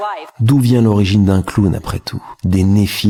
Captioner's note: french dialogue continues